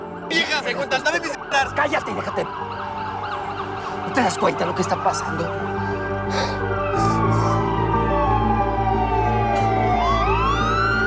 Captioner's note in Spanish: Sirenas de patrullas